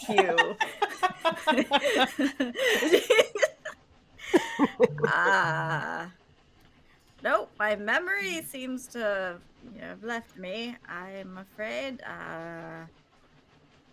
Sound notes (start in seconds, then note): 0.0 laughing